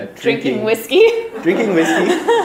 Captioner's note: laughter